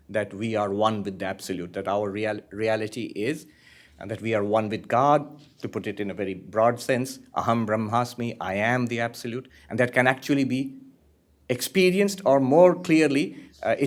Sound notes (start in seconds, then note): 7.4 hindi